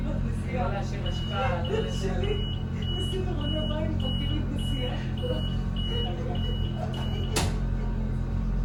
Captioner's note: door closing signal; door closed